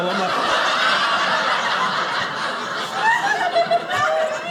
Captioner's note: audience laughing